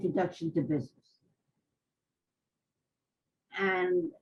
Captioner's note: pauses for 3 seconds